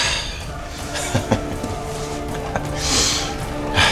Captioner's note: laughing